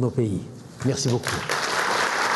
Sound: Applaudissements

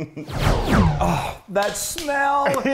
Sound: lasers ring out

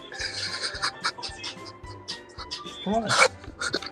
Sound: cries

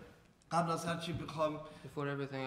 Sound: speaking in farsi

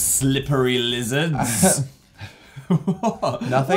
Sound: laughing

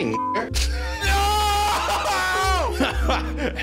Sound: laughs

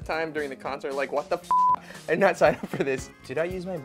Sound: beep

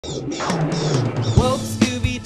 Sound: bat squeaks

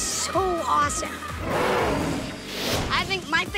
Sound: roars

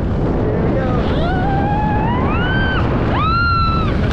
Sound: screaming

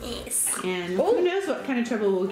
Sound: grunts

